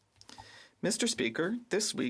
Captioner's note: speaking French